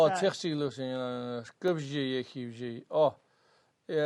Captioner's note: tibetan